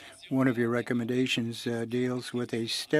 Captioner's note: speaking French